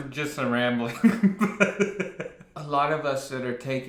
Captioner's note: laughs